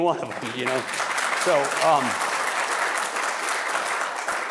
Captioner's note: audience applauding